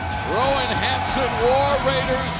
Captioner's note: crowd cheering